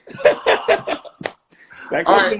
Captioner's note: laughing